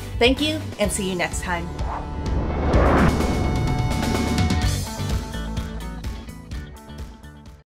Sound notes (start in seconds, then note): 1.4 whooshing; 2.8 upbeat music ends